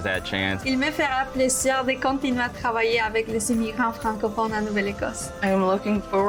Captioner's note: speaking in foreign language